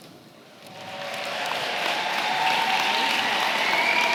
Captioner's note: applause